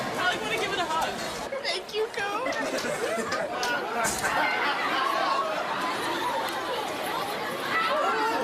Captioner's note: laugh